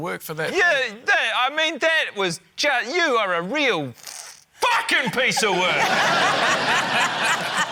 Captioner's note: laughter